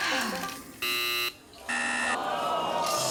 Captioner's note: Sophie sighs